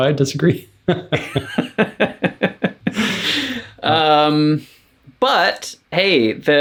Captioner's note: laughter